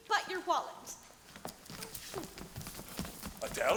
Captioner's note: footsteps clacking